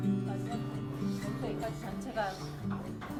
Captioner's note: none